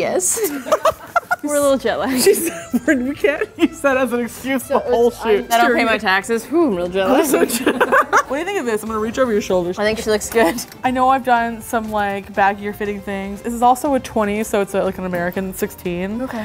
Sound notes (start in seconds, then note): 0.3 laughing; 7.1 laughing